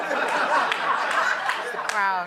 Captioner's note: laughter